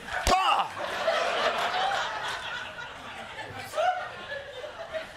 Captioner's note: laughter